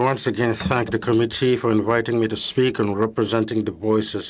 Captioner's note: speaking French